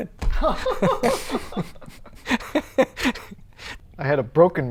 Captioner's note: laughter